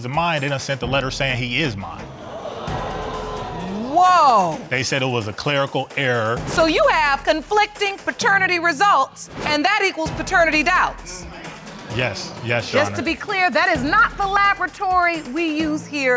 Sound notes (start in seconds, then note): 2.1 audience gasp